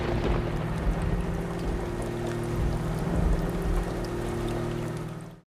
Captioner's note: thunder rolling; rain falling